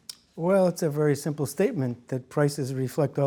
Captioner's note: voiceover